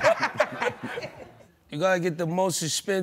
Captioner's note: laughing